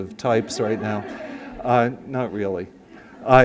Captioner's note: laughs